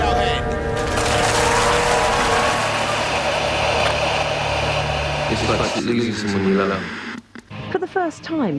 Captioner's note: applause